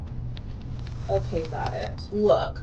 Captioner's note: buzzing